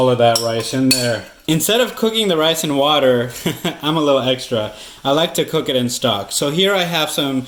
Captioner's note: laughs